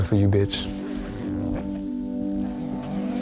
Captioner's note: zippers sound